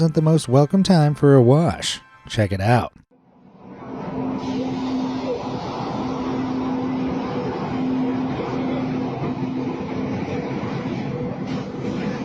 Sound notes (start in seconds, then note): 3.6 train motor humming